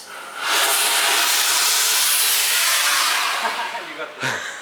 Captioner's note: machinery roaring